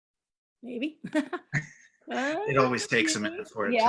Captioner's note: chuckles